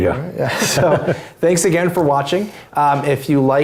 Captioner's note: laugh